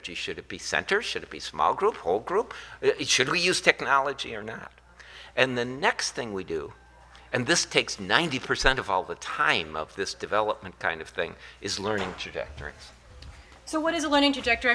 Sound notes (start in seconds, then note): none